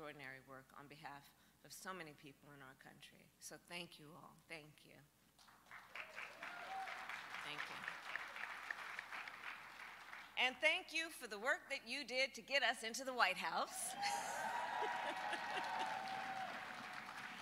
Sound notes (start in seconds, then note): 8.0 applause